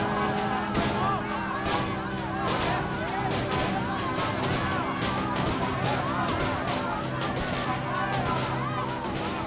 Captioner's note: crowd chanting